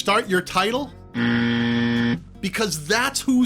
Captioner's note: buzzer sounds